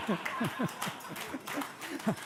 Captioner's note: laughter